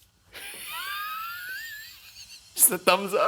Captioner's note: laughs